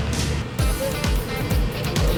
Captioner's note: murmurs